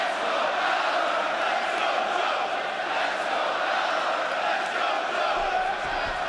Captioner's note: fans chanting